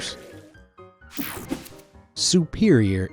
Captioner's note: screen whooshing